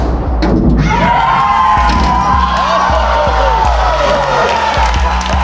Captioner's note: spectators applauding